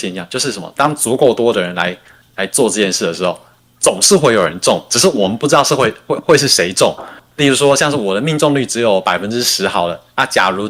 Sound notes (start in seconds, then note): 7.2 non-english speech